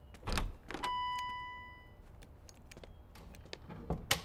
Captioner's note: door bell dinging